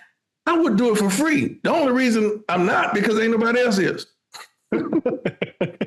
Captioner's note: laughing